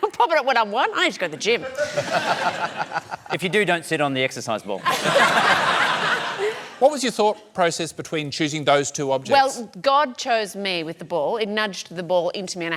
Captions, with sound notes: and now I'm popping it when I'm one? I need to go to the gym. (LAUGHTER) If you do, don't sit on the exercise ball. (LAUGHTER) What was your thought process between choosing those two objects? Well, God chose me with the ball. It nudged the ball into me